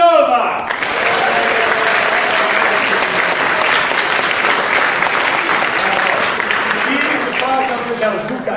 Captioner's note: applause